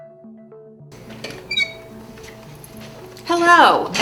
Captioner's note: door opens; instrumental music